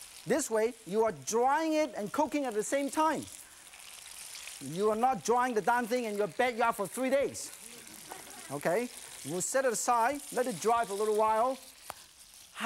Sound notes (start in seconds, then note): 7.7 laughter; 8.2 crowd